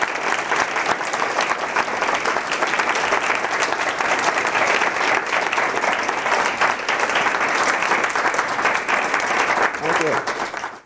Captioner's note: applause